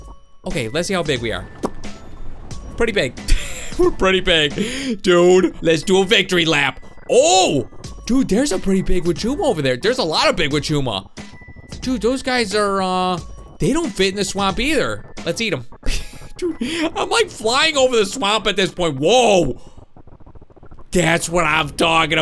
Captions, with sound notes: Okay, let's see how big we are. (lip smack) Pretty big, dude. Let's do a victory lap. Oh, dude, there's a pretty big Wachuma over there. A lot of big Wachuma. Dude, those guys are, they don't fit in the swamp, either. Let's eat them. I'm like, flying over the swamp at this point. Whoa, that's what I'm talking about!